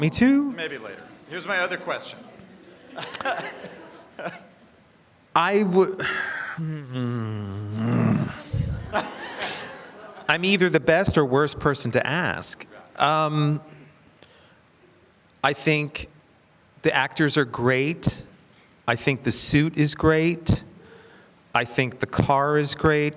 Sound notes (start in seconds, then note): 6.0 groans; 8.6 audience laughs